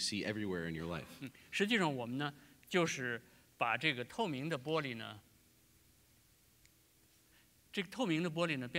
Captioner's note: speaking in Chinese